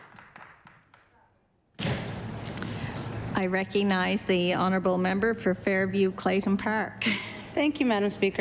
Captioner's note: applause